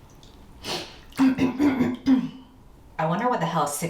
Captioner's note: coughs